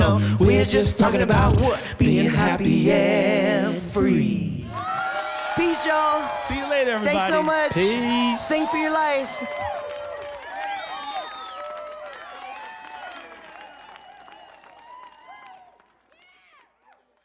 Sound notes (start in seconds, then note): 4.9 crowd cheering; 10.1 crowd cheering